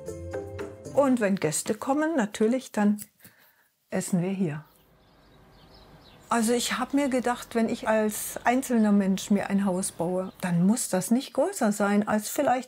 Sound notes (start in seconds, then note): 4.4 birds chirping